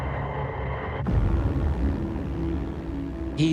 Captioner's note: engine whirring